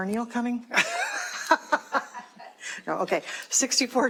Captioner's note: laughter